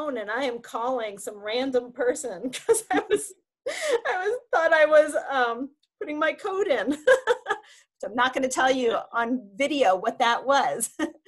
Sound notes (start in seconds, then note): 2.6 laughing; 7.0 laughing softly; 10.6 laughs